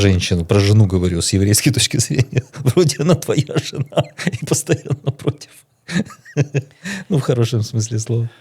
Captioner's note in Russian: смех